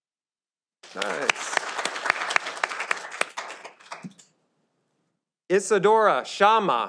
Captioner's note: audience applauding